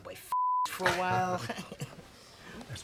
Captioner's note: laughing